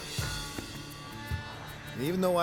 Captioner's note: sighs